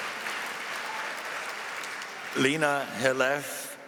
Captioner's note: applause